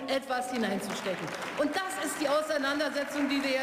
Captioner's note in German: Beifall